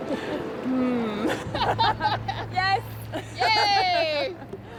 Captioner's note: laugh